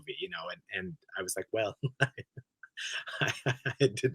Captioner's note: he laughs